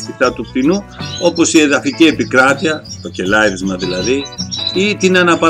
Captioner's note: chirping